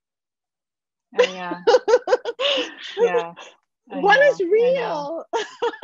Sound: laughter

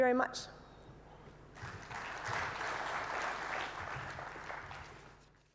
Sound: applause

